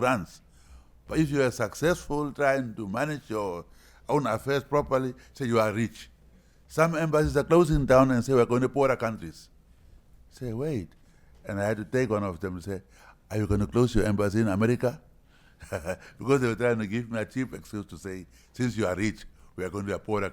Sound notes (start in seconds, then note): 15.6 chuckles